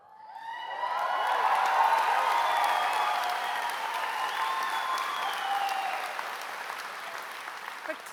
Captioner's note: applause